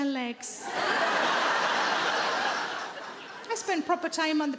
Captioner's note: audience laughing